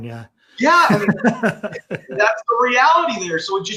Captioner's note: laughs